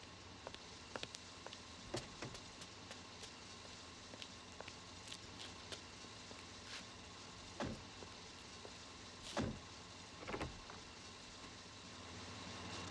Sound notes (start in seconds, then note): 7.7 door slamming